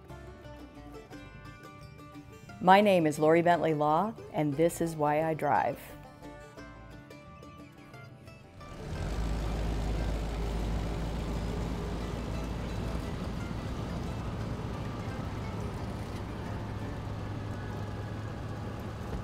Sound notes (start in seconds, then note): 0.2 upbeat country music; 6.5 upbeat country music; 9.2 truck Rumbling